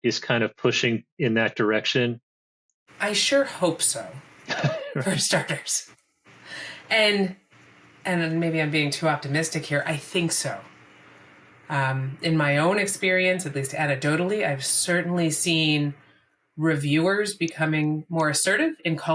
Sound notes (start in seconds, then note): 4.5 laughs